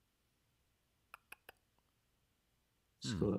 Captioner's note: tongue clicking